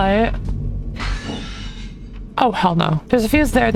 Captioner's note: glass breaking